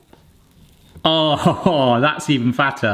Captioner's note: laughing